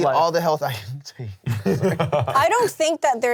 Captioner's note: all laughing